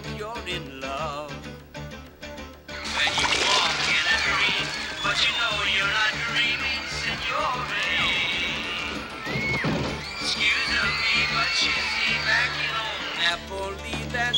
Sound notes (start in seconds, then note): 3.1 lava bubbling